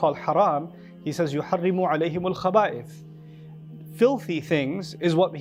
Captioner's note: Arabic